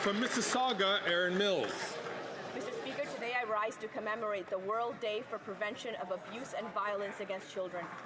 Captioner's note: some Applause